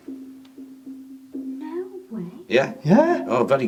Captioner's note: door tapping